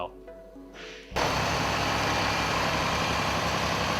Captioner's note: tractor engine